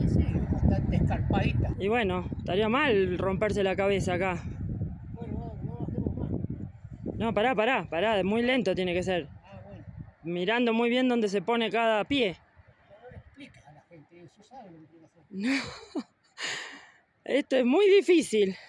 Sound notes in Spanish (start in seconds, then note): 15.4 risas